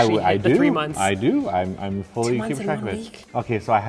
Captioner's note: whispers